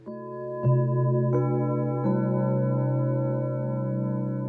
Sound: bells ringing

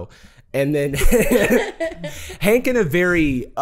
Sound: laughing

